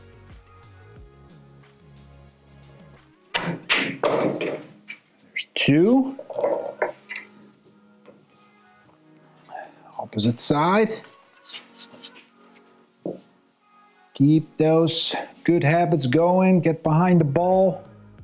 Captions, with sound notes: (balls clanging) Two. Opposite side. Keep those good habits going. Get behind the ball.